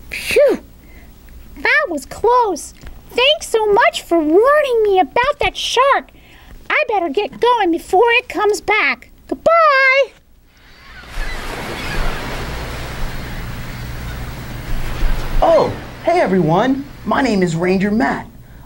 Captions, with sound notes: Whew! That was close. Thanks so much for warning me about that shark. I better get going before it comes back Bye bye! [beach noises] Oh, hey everyone! My name is Ranger Matt.